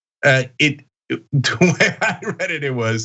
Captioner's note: laugh